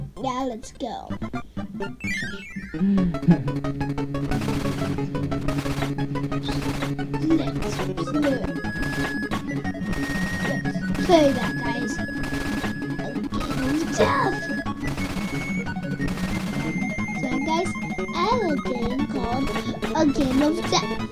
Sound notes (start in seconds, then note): 7.4 in a deepish voice